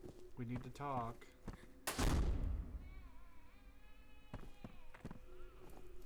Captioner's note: door slams; baby Crying